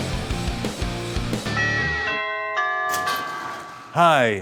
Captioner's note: doorbell Rings